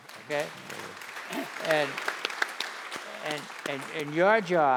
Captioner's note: applause